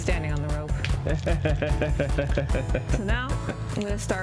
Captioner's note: laughs